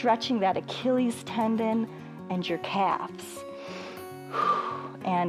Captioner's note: inhales and exhales